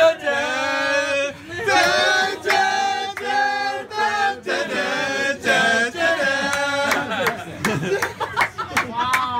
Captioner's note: people humming intro theme